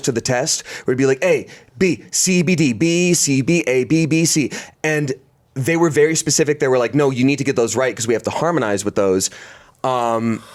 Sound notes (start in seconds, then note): none